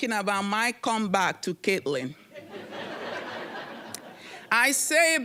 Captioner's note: audience laughing